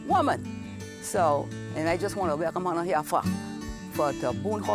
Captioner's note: speaking Gullah